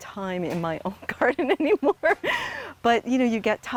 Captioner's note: laughing